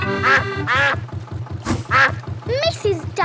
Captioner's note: quacking